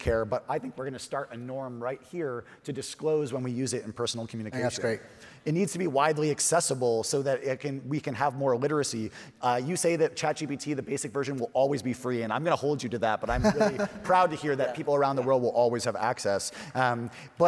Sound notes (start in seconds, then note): 13.3 chuckles